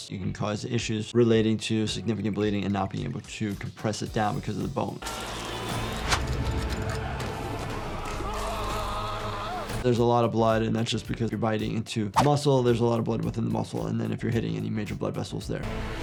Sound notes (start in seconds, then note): 5.0 ominous music; 5.2 man yelling